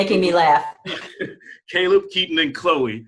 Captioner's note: laughing